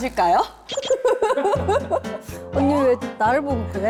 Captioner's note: chuckles